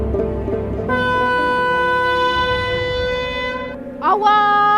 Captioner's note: A horn sound